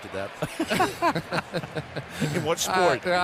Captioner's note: laughter